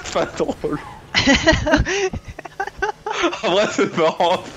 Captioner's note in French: rires